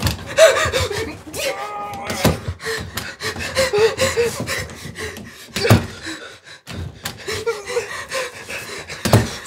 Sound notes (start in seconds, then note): 0.1 gasping; 0.4 groaning